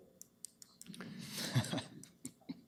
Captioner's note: laughter